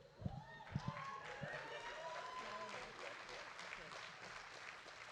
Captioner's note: audience applauding